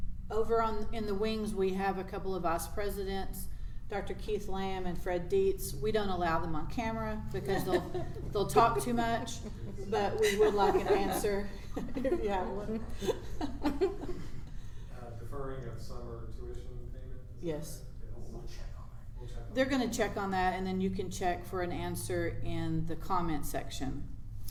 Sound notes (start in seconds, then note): 7.0 laughs; 11.8 giggles